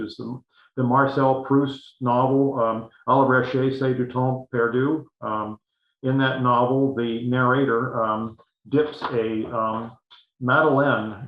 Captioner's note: foreign language 00:08:01